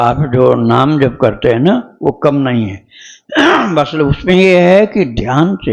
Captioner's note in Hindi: गला साफ़ करने की आवाज़